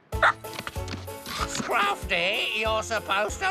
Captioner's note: chomp!